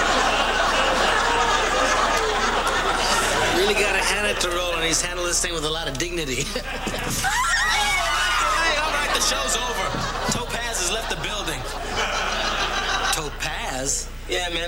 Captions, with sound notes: YOU REALLY GOT TO HAND IT TO ROLAND. HE'S HANDLED THIS WITH A LOT OF DIGNITY. [SQUEALING] ENOUGH! ALL RIGHT! THE SHOW'S OVER! TOPAZ HAS LEFT THE BUILDING! TOPAZ?